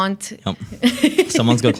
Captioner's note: laughing